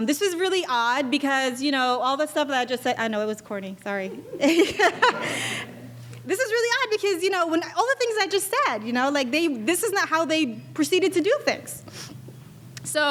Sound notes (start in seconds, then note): 3.9 laughing